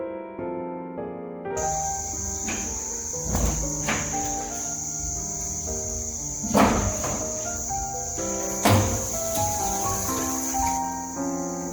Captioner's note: boiling water for cooking and cleaning